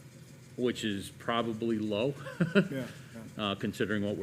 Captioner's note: laughs